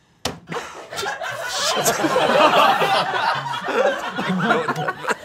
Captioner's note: all laughing